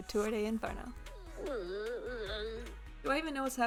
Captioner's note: sad boar noises